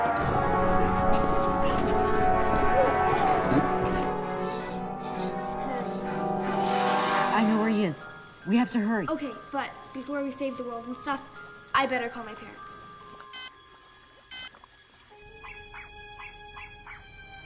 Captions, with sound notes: I KNOW WHERE HE IS. WE HAVE TO HURRY. - OKAY, BUT BEFORE WE SAVE THE WORLD AND STUFF, I BETTER CALL MY PARENTS. [beeping] [dog barking]